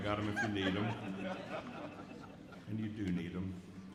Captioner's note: audience laughs